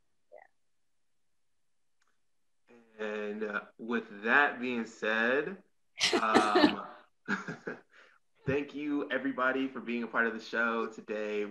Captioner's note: laughs